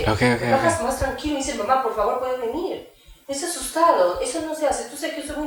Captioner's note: speaking Spanish